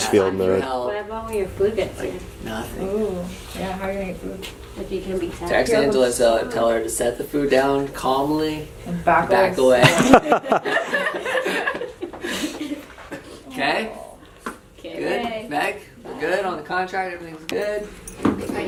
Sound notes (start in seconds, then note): 9.8 laughter